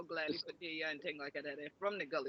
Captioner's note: speaks in foreign language